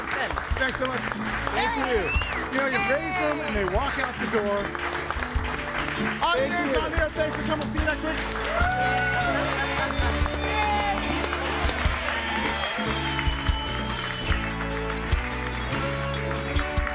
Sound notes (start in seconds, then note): 9.5 audience cheering and applauding; 13.4 upbeat jazz music music